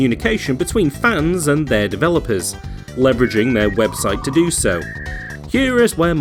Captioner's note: internet dial-up sound